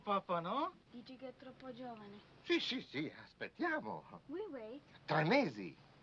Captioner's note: speaking foreign language